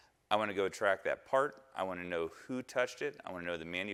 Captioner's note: none